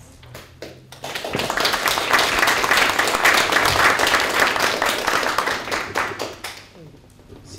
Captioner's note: applause